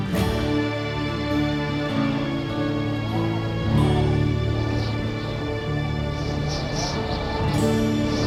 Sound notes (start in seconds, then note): 2.8 wind whistling